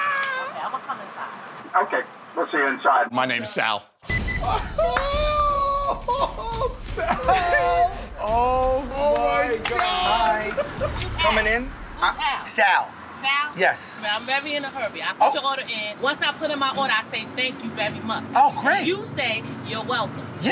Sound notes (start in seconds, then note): 5.5 laughter